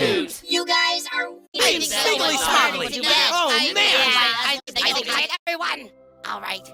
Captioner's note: yapping